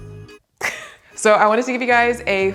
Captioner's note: chuckles